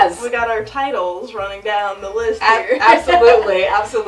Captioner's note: laughs